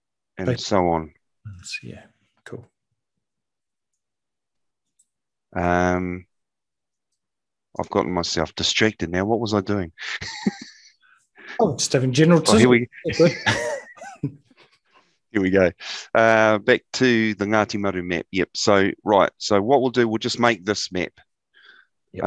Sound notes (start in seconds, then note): 12.4 laughs